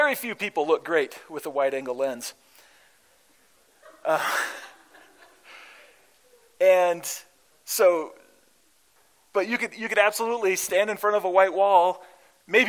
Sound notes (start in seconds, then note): 3.7 laughter